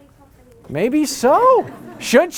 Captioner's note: laughter